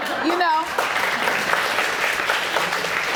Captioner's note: audience applauding